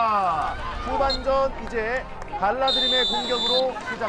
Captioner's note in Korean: 호루라기 소리